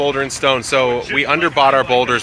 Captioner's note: speaking faintly